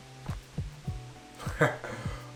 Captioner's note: chuckles